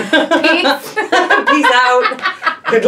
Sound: laughing

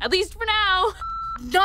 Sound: line beeps

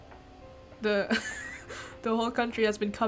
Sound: laughs

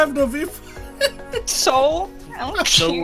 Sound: laughing in the background

